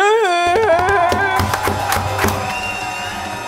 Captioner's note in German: Applaus, Jubel; Dynamische Musik